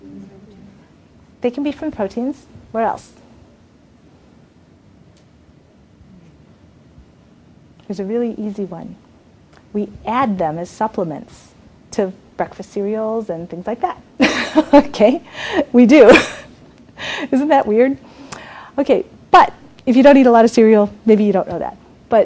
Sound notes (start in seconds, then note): 16.5 laughs